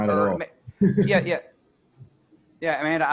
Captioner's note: laughing